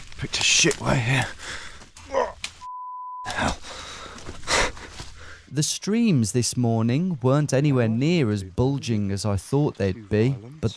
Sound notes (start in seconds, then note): 2.6 beep; 4.5 laughs